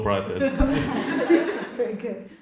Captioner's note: audience laughs